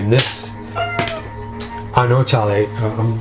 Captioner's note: cat meows